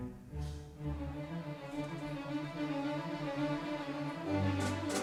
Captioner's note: none